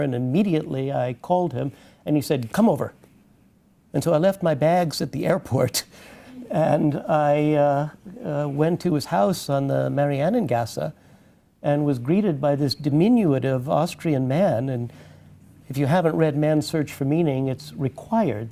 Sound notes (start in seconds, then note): 9.0 foreign language 00:49:59